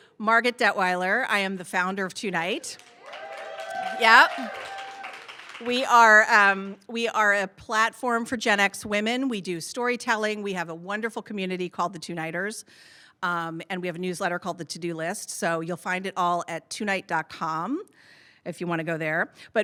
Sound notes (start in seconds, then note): 2.7 audience cheering